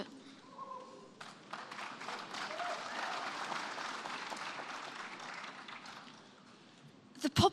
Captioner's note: sporadic applause